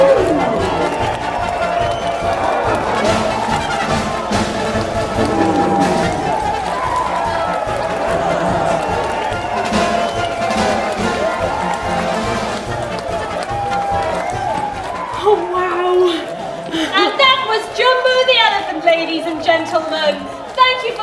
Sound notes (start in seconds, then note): 2.8 crowd murmuring in awe